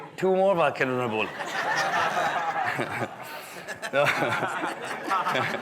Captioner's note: guests laughing